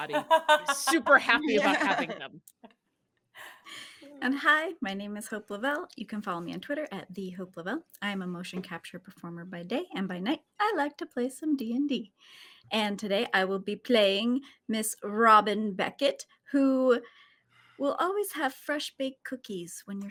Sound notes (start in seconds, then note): 2.4 all laughing